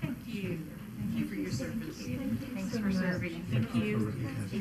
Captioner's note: people chattering